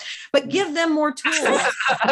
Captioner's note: laughing